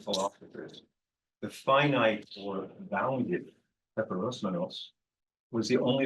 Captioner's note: speaking in foreign language